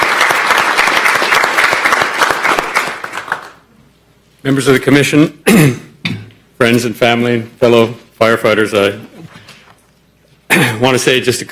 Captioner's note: applause